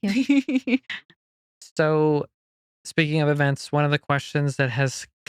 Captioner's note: laughing